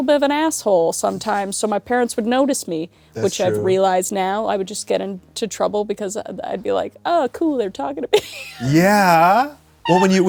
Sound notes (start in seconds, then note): 8.5 wheezes